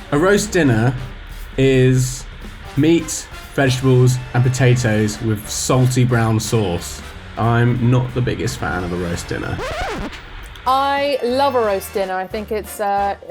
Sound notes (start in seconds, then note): 8.5 record scratches